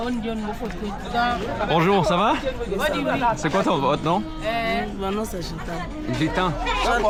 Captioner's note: people speaking in foreign language